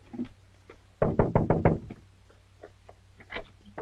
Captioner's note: knocks